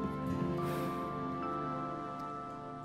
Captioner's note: Deep sigh